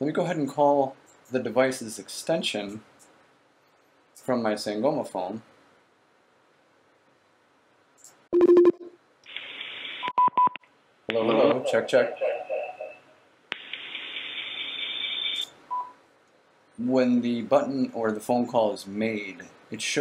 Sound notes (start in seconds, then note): 8.4 phone ringing; 10.0 beeping